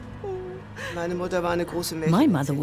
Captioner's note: speaks in foreign language